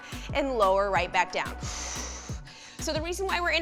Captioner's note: exhales harshly